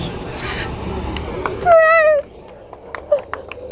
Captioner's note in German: Applaus